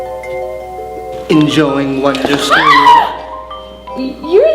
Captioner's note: screams